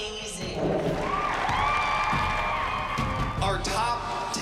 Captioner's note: applause